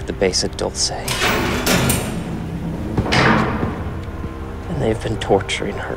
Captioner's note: metal banging